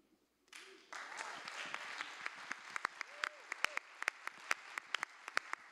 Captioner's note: applause